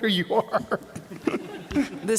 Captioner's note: laughter